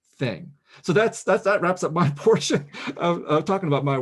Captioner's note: laughs